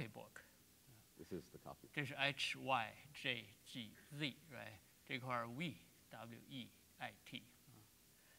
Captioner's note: speaking in Chinese